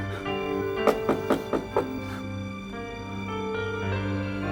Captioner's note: knocking; melancholy piano and string music